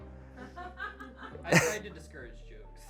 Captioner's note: audience laughing